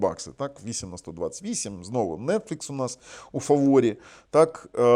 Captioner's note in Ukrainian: сопіння